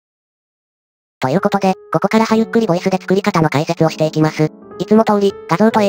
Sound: machine voice is back lol

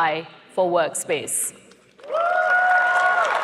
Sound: applause

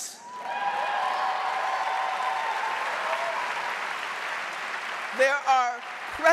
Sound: audience cheering and applauding

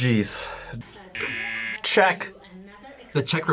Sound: buzzer rings

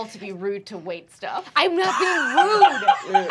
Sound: laughter

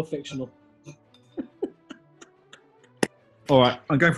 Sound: giggling

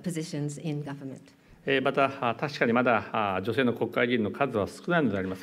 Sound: speaking japanese

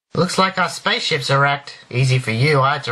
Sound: none

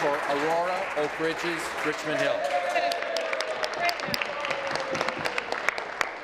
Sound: applause

